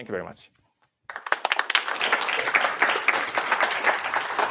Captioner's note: applause